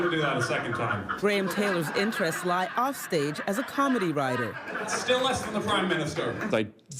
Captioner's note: laughter